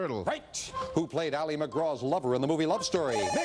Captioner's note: beeping